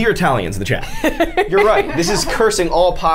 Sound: Safiya laughs

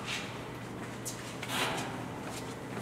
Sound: tennis shoes scuffs

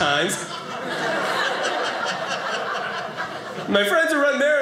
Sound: audience laughing

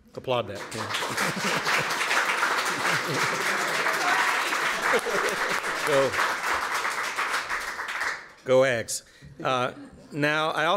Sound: applause

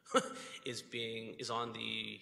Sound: laughs

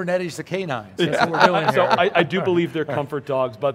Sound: laughing

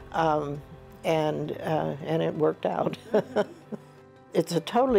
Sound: chuckles

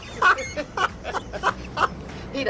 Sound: laughs

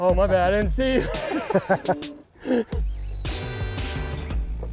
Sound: both laughing

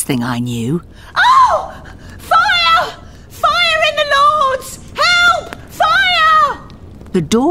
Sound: scream

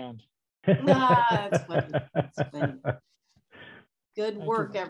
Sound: laughing

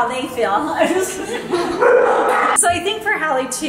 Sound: she laughs

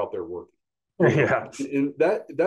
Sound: laughs

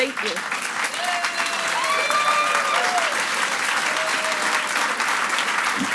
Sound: audience applauds and cheers

